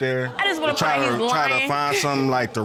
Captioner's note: laughs